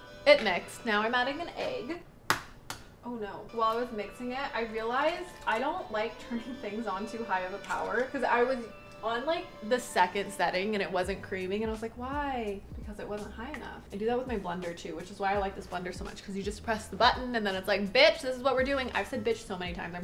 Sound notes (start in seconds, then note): 0.0 gentle music; 2.2 egg cracking